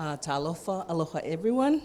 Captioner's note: in a foreign language